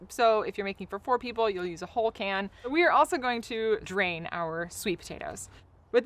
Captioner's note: none